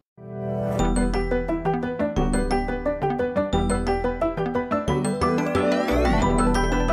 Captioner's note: ring tone